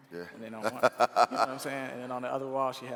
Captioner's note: laughing